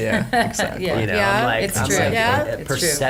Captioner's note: laughter